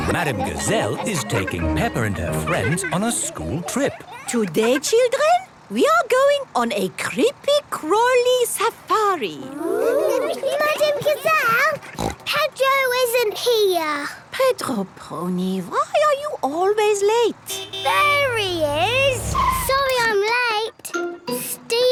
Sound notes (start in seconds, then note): 11.8 snort; 17.4 honking